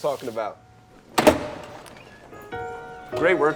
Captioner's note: door rattling